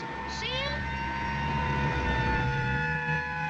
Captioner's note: sirens blaring